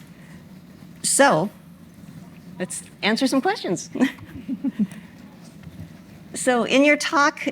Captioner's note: chuckles